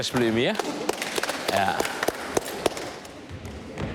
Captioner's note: they applaud